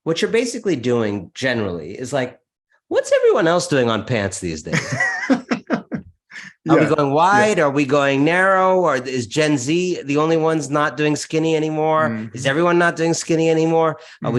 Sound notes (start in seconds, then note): 4.7 laughs